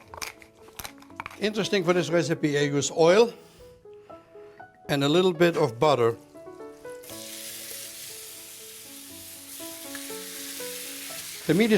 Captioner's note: sizzling